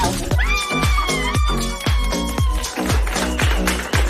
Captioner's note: cheering